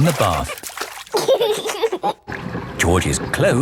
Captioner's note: giggling